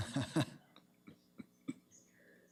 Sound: Mayor laughs

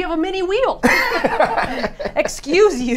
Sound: all laugh

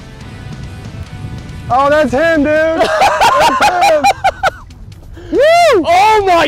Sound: laughing

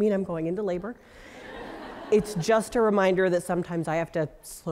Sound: laugh

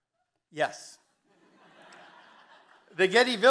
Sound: audience laughing

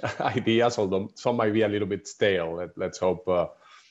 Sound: laughter

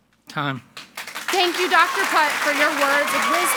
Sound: audience applauds and cheers

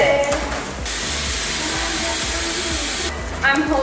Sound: air balloon pump hisses

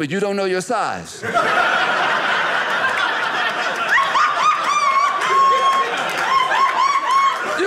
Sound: audience laughing

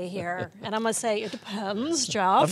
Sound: laughter

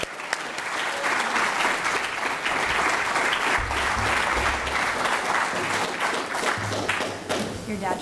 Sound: applause

